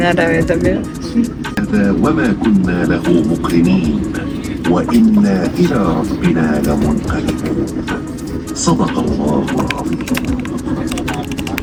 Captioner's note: person speaking in Arabic